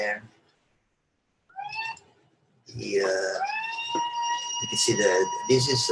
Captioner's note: monkeys gibbering